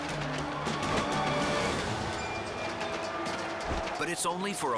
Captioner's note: cape flaps